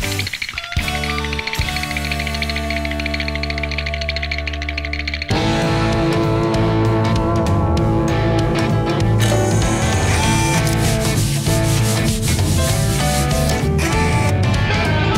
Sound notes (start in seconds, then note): 0.0 rattling; 9.2 mechanic motor whirring; 10.0 brushes scrubbing